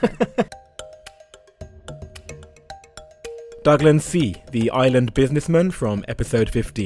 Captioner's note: voiceover